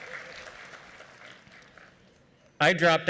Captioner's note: cheering